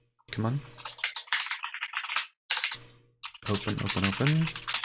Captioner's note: keyboard keys clanking